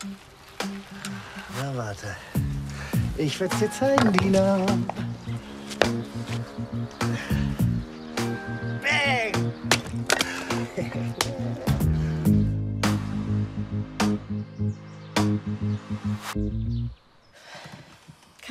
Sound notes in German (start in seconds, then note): 8.5 laut; 10.6 freudig; 17.4 Seufzen